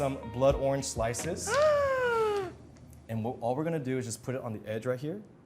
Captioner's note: gasping